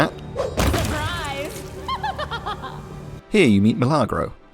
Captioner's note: commander laughs sadistically